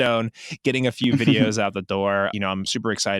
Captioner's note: laughs